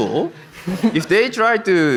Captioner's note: audience laughs